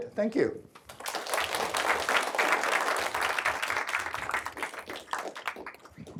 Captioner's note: applause